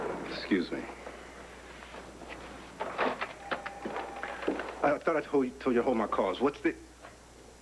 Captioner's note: intercom buzzes